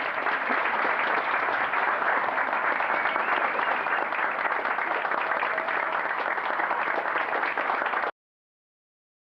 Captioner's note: applause